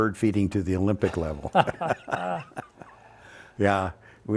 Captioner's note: both laughs